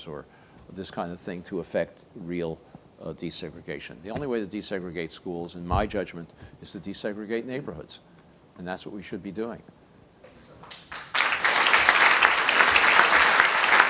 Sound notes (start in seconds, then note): 10.6 applause